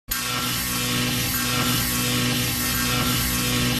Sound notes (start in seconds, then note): 0.1 electricity zapping